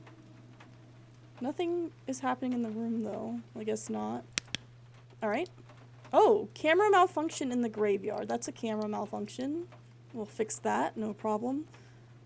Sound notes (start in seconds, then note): 4.3 flashlight Clicks Off